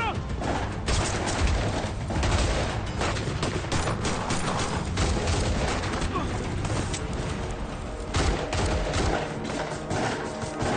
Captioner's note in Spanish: Disparos